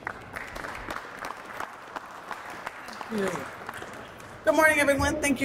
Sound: applause

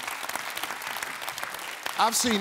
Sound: clapping

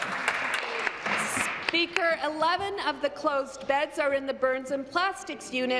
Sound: applause

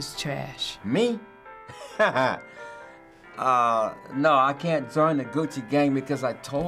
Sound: chuckles

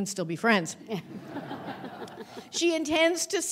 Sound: audience laughing

